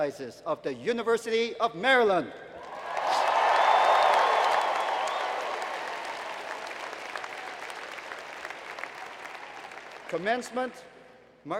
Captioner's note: applause